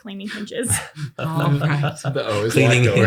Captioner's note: laughter